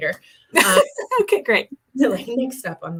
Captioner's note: laughter